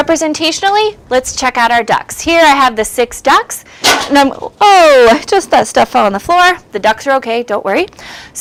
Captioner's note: crash